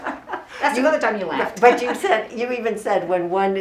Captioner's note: both laughing